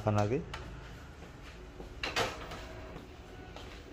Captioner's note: printer machine sound